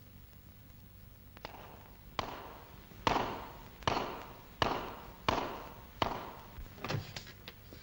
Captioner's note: hoof thuds